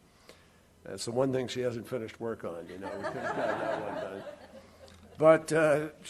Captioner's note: laughter